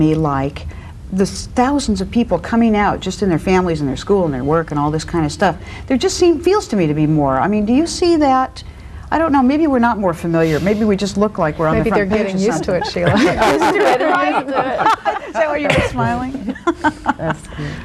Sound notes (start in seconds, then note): 11.8 group laughs